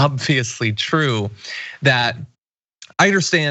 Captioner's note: laugh